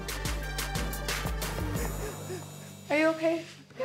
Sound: crying

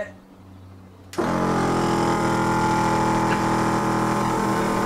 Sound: generator hum

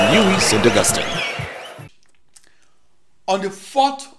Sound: wild applause and cheering for 22 seconds

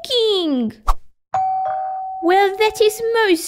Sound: doorbell

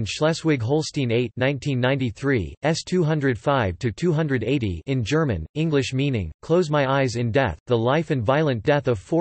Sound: in German

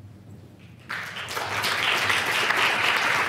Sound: applause

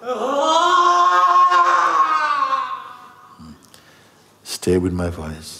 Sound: friend wailing louder

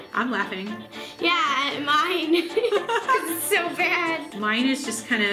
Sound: laughs

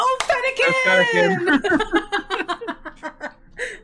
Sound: laughs

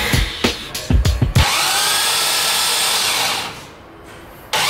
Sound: motor revving

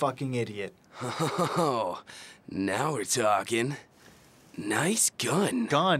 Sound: laughs

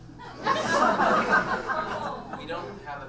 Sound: audience laughs

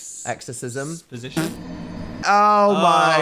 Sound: Dark Souls death sound plays

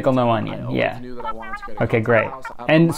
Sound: cartoon voice

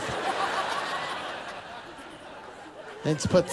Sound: laughter

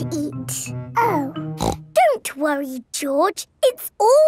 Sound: snorts

